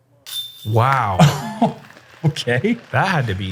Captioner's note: chuckles